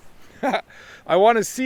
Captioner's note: laughs